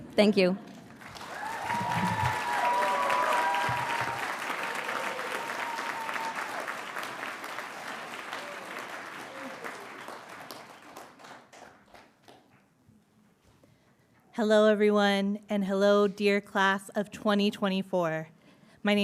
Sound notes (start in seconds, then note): 1.6 audience cheering and applauding